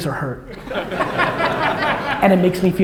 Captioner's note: audience laughter